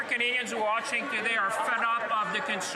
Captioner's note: speaking French